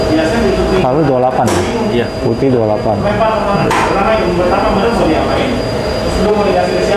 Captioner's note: distant chattering